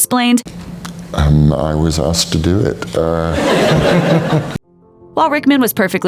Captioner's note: laughs